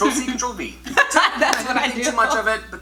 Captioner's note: both Laugh